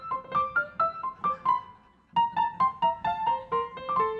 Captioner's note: audience laughing